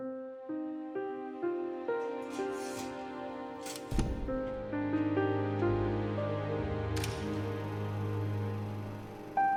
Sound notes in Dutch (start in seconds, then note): 3.6 projector klikt